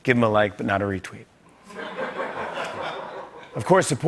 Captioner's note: light laughter